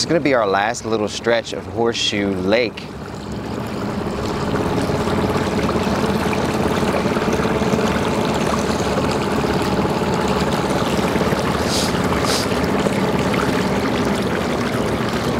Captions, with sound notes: This is gonna be our last little stretch of Horseshoe Lake. (water sloshing) (engine rumbles)